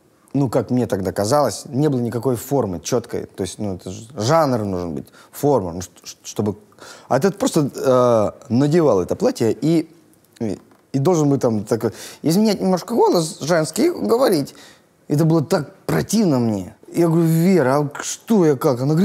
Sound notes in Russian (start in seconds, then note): 11.5 изменяет голос на тонкий